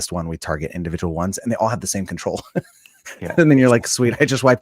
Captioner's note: laughing